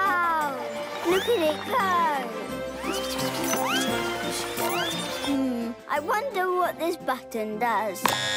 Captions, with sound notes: Wow, look at it go! (Treewheeler rustling) Hmm, I wonder what this button does.